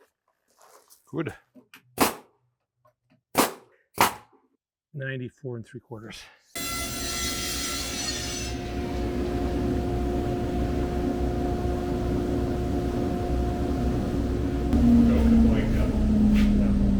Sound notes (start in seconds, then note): 4.0 power tool shooting; 7.3 power tool whizzing